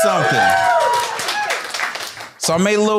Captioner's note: applause